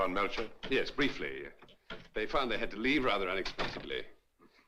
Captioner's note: door Closes